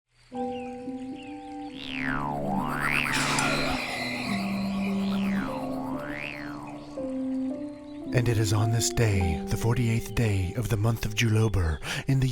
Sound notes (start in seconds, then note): 1.7 sploing; 3.1 ding